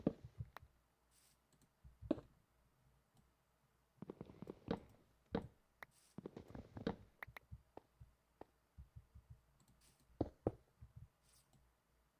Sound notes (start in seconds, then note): none